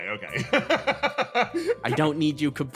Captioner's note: laugh